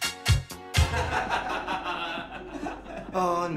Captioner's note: laughter